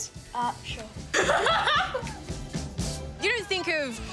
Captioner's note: laughs